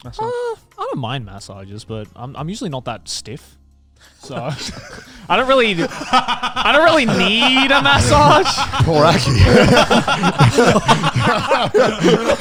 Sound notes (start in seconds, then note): 3.4 laughs; 7.2 laughs; 9.5 all laughing